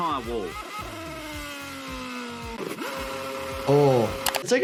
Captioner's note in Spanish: el motor ruge